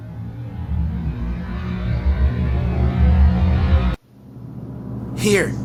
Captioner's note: ominous sound